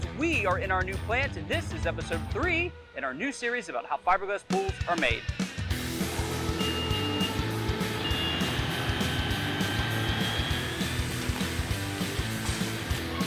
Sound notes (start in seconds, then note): 5.9 motor revving; 6.0 beeping; 8.5 machinery whirring